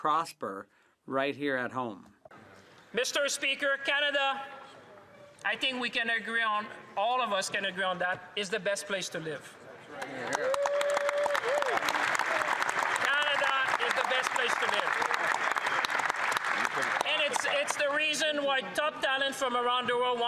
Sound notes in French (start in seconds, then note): 5.9 voix de l'interprète; 18.5 applaudissements